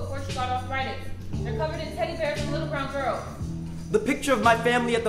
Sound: none

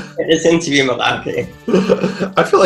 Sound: laughing

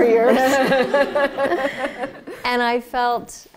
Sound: laughter

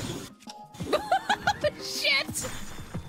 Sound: laughter

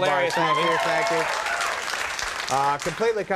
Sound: audience applause

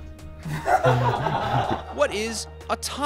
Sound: laughing

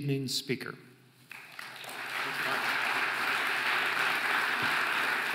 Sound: audience applauding

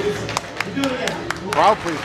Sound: audience applauds

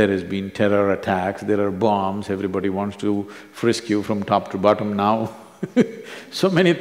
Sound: laughs

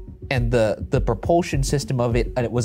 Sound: none

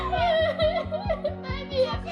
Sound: chokes up

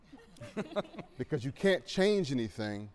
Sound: laughter

